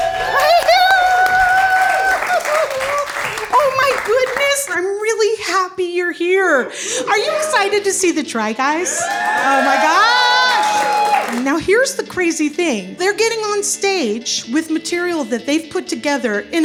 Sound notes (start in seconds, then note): 0.0 audience cheers and applauds; 8.8 audience cheering